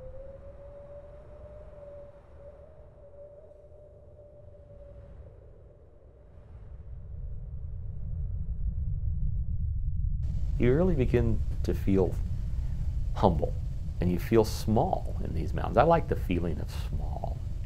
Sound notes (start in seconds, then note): 0.3 wind howling; 6.8 low rumble